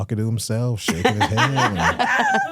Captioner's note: hosts laughing